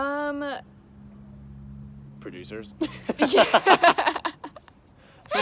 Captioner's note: both laugh